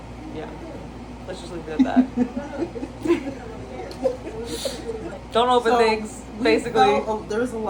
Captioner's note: laugh